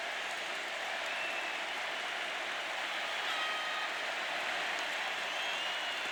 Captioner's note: applause